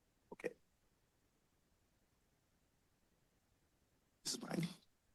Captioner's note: silence